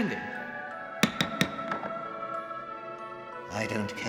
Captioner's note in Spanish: golpe de martillo